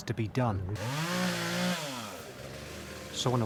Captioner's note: chainsaw revving